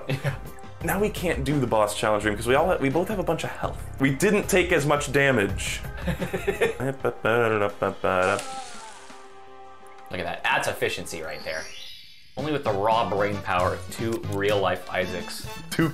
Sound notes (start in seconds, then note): 6.0 laughing; 11.3 the Mario 64 painting warp sound effect plays